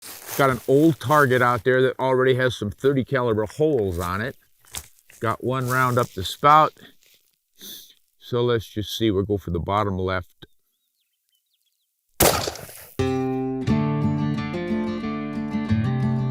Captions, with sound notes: - Got an old target out there that already has some 30-caliber holes on it. Got one round up to spout. So let's just see. We'll go for the bottom left. (gun shot) (bright music)